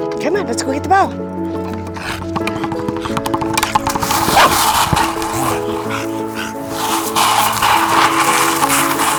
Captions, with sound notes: Come on, let's go get the ball. [Laci barking]